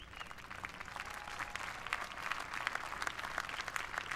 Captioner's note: applause